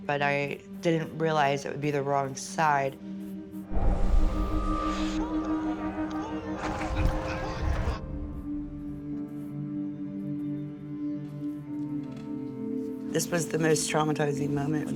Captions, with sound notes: but I didn't realize it would be the wrong side. [crowd shouting] [soft solemn music] This was the most traumatizing moment,